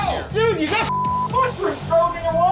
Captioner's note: beep